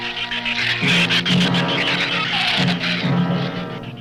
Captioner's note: shrews chatter